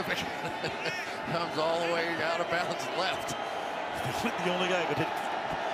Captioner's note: laughs